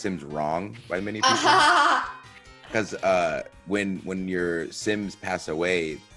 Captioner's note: laugh